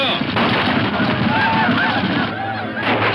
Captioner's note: gunshots